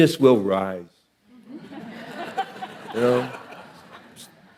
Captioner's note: audience laughing